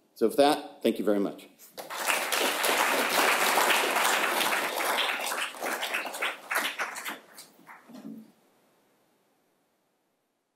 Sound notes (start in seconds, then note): 1.7 audience clapping